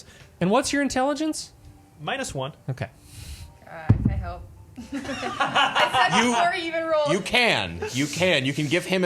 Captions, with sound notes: - And what's your intelligence? - Minus one. - Okay. - I hope. (laughing) I said you already even rolled. - You can, you can, you can give him